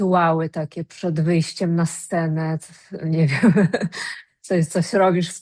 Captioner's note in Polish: śmiech